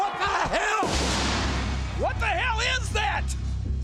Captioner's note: explosion